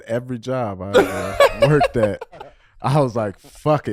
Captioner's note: laughing